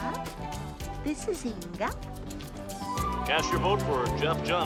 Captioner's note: swedish Accent; Thomas Using "White" Accent